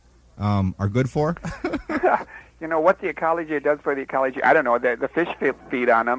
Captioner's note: laughing